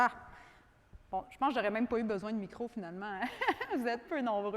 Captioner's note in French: rires